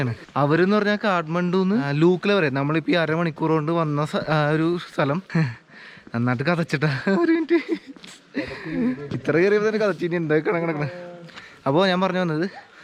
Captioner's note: I'm panting